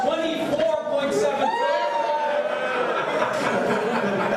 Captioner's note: cheering